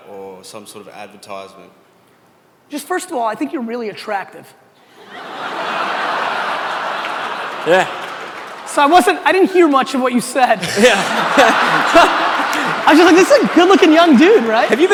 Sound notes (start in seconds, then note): 5.0 audience laughter and cheers; 10.6 audience laughter